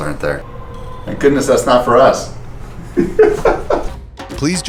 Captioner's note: laughter